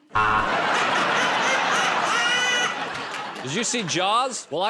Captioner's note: buzzer